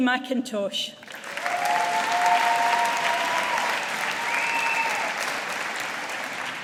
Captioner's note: audience applauding